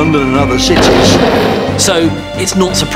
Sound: explosion booms

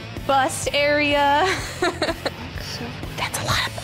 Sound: laughter

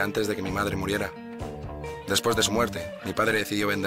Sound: birdsong

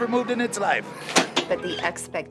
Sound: closing door

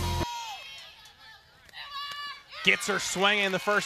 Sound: team cheering

